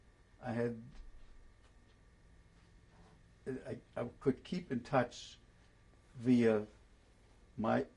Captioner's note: pauses for 3 seconds